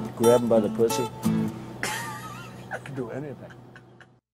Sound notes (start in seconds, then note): 1.8 laughs